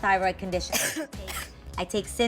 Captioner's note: cough